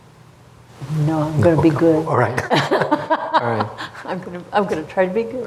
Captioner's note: laughter